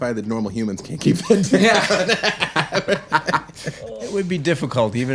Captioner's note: laughing